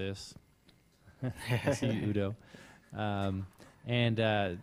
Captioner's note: laugh